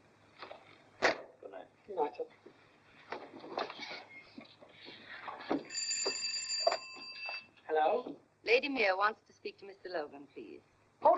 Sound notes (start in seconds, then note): 1.0 phone sets down; 5.6 phone rings